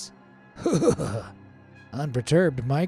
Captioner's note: narrator's voice quavers